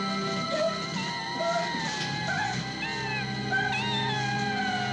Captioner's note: Twyla whimpering; cat meowing